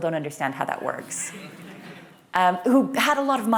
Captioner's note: laughter